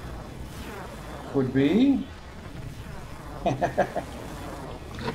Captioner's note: chuckles